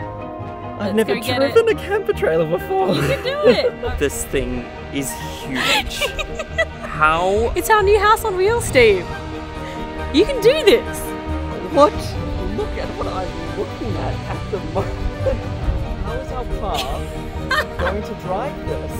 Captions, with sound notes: - I've never driven - Let's go get it. - A camper trailer before (laughing). - You can do it. - This thing is huge. - Yeah (laughing). - How- - It's our new house on wheels, Steve. You can do this. - What? Look at what I'm looking at at the moment. How is our car going to drive this?